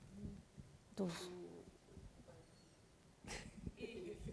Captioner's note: speaking japanese